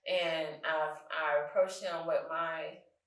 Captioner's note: none